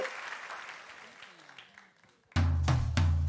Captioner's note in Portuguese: aplausos